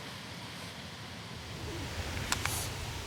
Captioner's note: crickets chirping continues